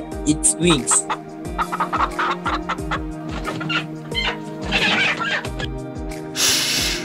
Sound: hen clucking and wings flapping sound

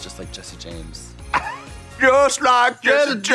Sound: Trixie laughing

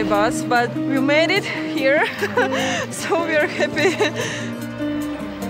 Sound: chuckling

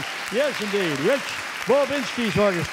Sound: audience cheering

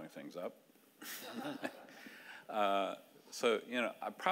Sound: audience laughing

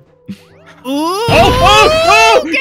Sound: shotgun blast

